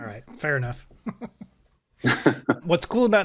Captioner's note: chuckles; laughs